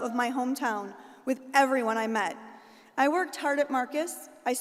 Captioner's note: none